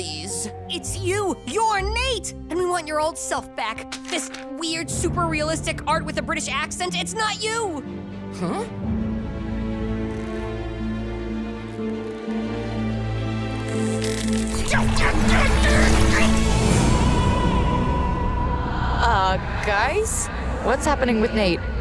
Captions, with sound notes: It's you. You're Nate, and we want your old self back. This weird, super realistic art with a British accent, it's not you. Huh? [grunting] Uh, guys, what's happening with Nate?